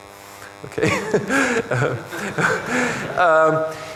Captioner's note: chuckles